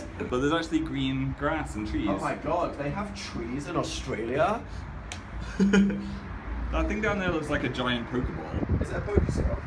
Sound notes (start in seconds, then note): 5.0 face slap; 5.4 laughs